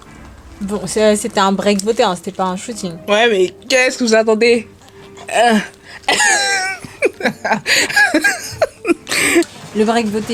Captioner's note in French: rires